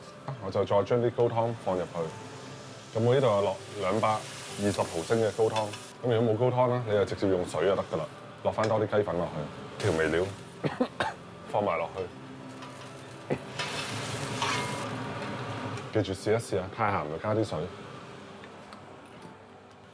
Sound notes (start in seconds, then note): 10.6 cough sound... the pepper taste is strong